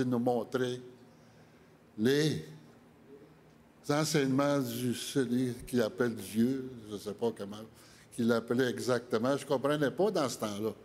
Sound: speaking French

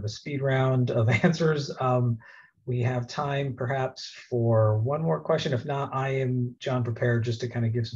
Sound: chuckle

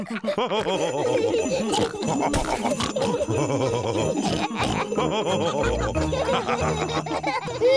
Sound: laughs

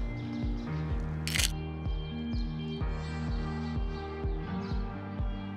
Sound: soft beat music; camera clicking

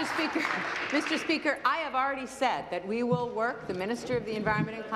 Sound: applause

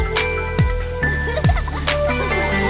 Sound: giggling

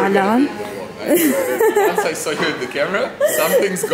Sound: laughing

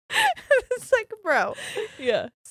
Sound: both laughing

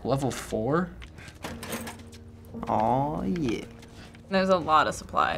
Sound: objects rattle

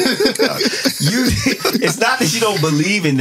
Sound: laughing

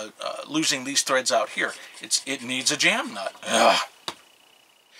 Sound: ugh!

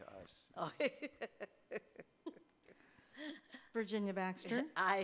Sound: laughing

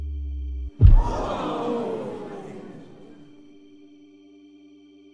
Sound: loud thud, crowd gasps

